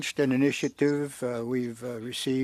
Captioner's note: speaking French